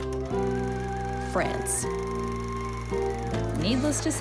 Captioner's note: film reel flapping